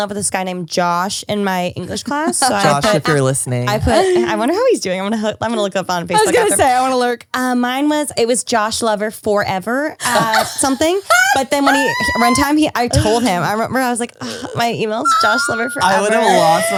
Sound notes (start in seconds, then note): 10.0 laughs